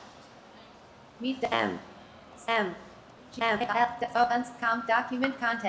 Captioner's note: broken synthesized speech